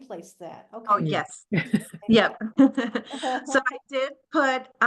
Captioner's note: chuckles